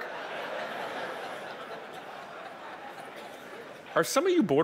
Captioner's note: audience laughing